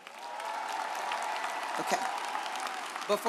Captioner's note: audience applauds